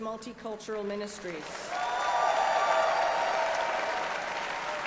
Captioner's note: applause